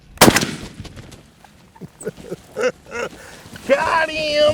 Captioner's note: shotgun firing